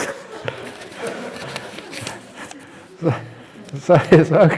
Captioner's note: laughter